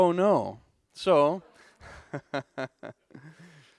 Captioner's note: laughing